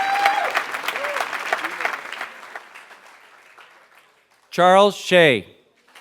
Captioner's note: applause